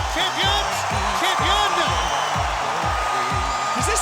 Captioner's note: crowd cheering